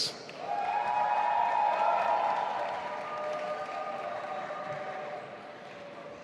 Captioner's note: audience applauding and cheering